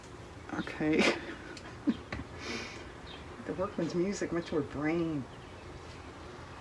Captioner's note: laughs